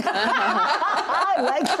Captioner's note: everyone laughing